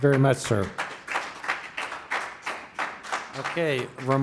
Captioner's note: applause